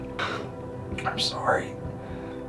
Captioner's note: Jonathan sniffling